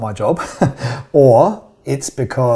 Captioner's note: chuckles